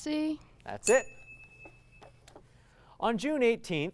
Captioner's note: ding